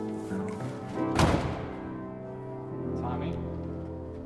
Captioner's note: thud